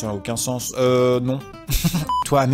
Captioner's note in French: rire moqueur